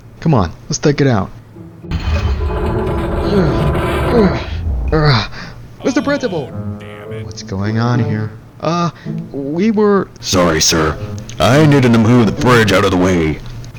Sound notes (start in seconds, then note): 2.0 fridge scraping; 5.7 grunting